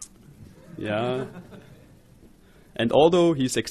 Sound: audience laughs

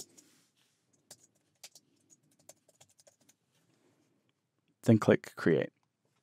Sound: keyboard typing

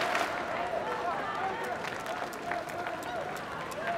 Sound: clapping

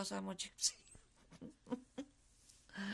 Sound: laughs

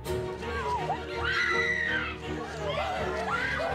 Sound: screaming

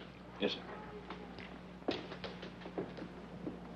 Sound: footsteps banging

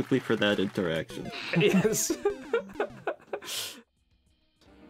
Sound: laughs

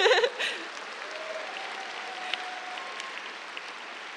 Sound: cheers, applause

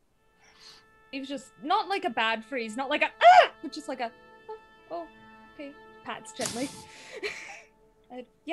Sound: pats gently

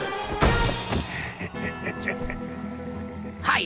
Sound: Striker laughter

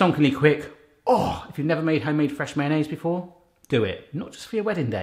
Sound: groans

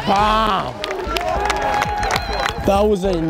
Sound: cheers

